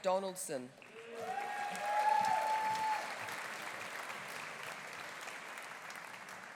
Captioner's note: audience applauding; audience cheering